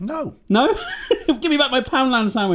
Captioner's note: laughs